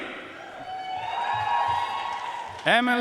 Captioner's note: audience cheering and applauding